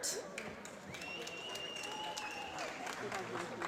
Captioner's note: applause